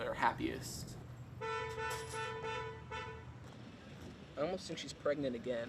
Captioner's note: car horn honks